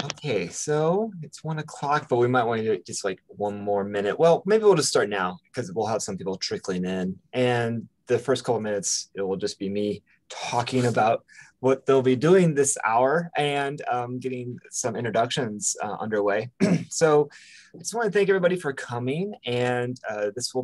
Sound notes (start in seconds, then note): 16.6 clears throat